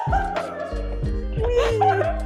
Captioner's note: laughing